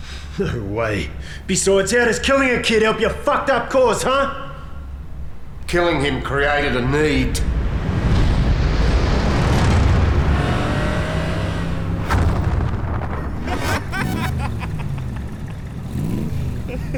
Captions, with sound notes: No way! Besides, how does killing a kid help your fucked-up cause, huh? Killing him helped created a need. [Laughter]